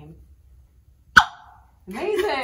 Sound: squeaky pop

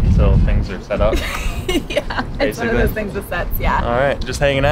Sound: laughs

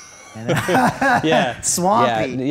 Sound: laughter

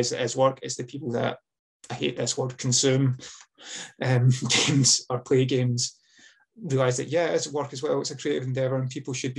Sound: laughs

